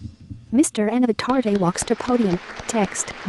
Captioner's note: applause